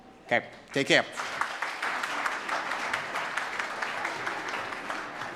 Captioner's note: audience claps